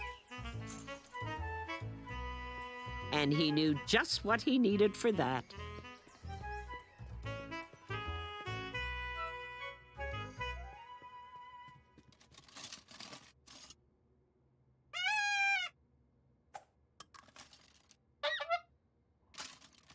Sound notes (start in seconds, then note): 7.2 trumpet; 11.1 horn